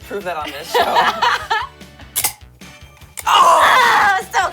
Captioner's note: laughs